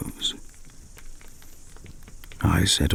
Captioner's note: fire crackling and night insect buzzing